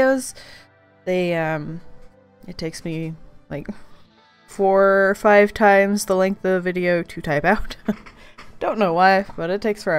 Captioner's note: laughs